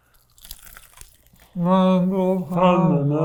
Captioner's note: both crunching